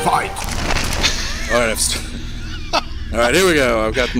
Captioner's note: laughing